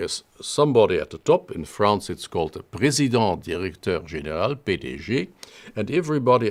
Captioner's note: speaking french